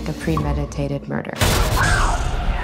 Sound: screaming

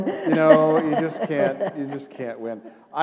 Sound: laughter

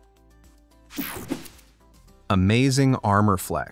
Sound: air whooshing

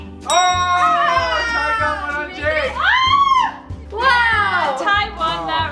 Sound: family talks in slow motion; triumphant bell sound, cheering

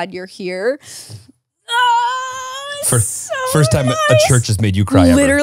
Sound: squeals

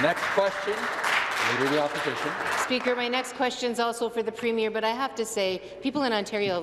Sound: some Applause

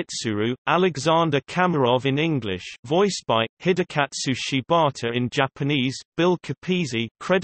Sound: in English

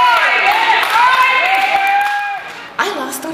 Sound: cheering

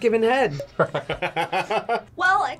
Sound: laughs

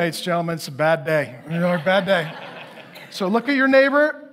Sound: congregation laughing

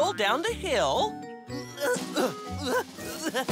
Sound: rolling efforts

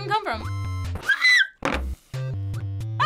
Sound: screams

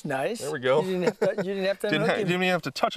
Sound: laughter

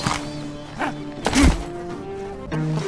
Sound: startled noise; impact

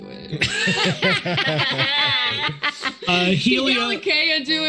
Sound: group laughs

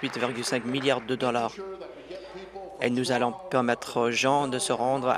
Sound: applause

